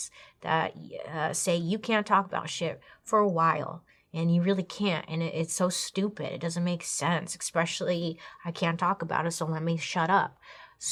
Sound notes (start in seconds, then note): none